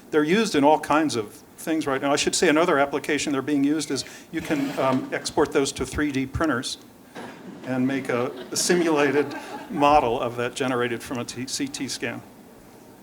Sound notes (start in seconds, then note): 7.2 laughter